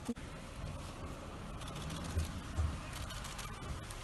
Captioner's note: camera burst clicks sound